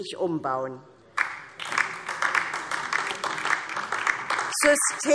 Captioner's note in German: Beifall DIE LINKE